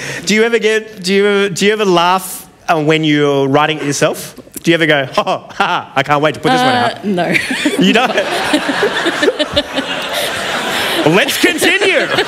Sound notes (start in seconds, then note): 8.9 laughter